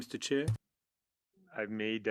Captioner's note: speaking French